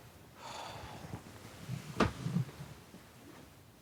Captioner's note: Dayne sighing